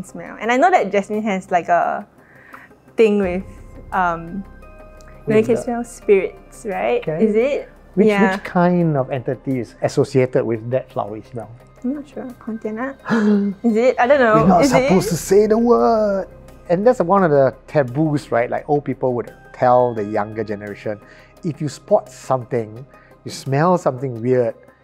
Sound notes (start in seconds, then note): 13.1 gasps